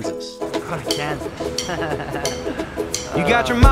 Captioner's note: laughs